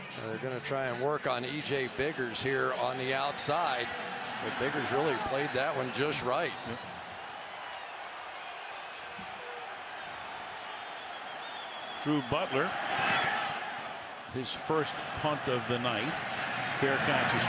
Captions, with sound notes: They're going to try and work on EJ Biggers here on the outside. But Biggers really played that one just right. Yeah. [cheers] Drew Butler at his first punt of the night.